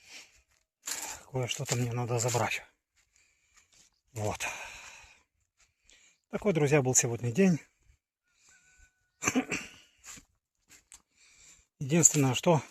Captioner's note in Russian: откашливается